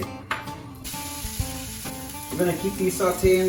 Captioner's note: pan sizzling